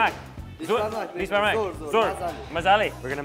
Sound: foreign language

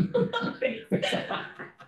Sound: all laughing

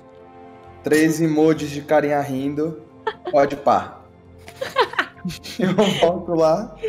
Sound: laughs

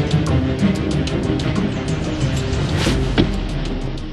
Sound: car stops and engine turns off

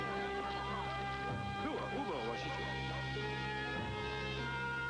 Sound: speaking Sioux

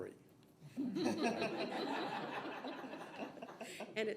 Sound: all laugh

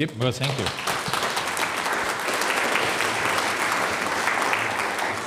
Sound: audience applauds

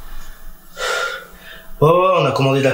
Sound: sigh

